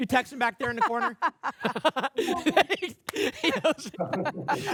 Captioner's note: laughter